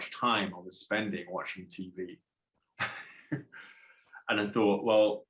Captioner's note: laughs